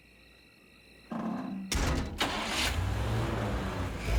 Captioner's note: door closes, engine starts